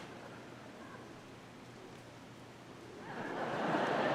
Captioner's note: audience laughing